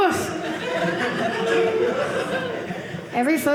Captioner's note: audience laughing